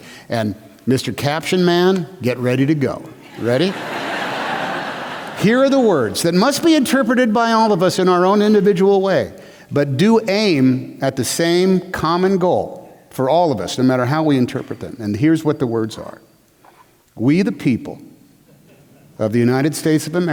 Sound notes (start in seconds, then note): 3.2 laughter